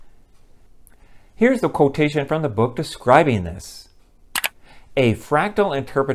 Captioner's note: mouse click